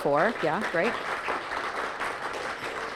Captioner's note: audience applauding